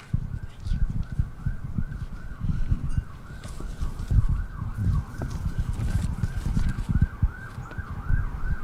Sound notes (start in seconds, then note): 0.8 siren